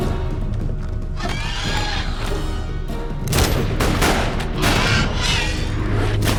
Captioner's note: loud squawking